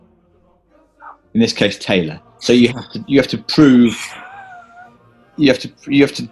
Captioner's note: key + horne sigh and laugh